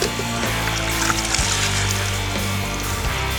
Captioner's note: splashing